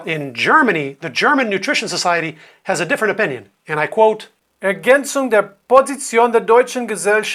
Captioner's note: german